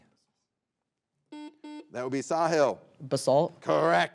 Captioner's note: buzzer beeps